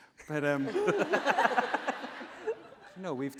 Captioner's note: laughing